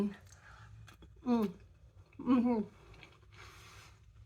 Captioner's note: happy mouth noises